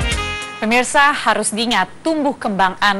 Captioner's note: non-english speech